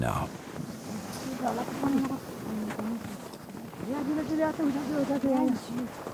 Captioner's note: speaking foreign language